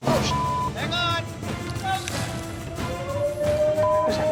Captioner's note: howling